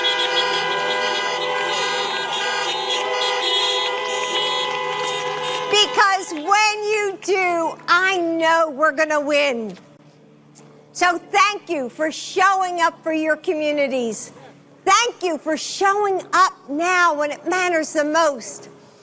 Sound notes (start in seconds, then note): 5.4 horns honking